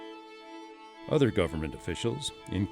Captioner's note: voiceover